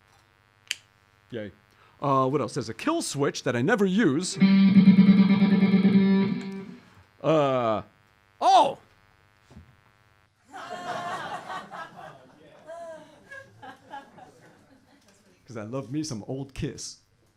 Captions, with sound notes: What else, there's a kill switch that I never use (guitar playing) OH!!! (laughter from audience) 'Cause I love me some old Kiss.